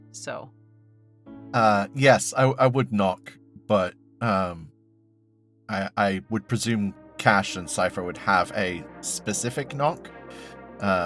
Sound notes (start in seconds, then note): none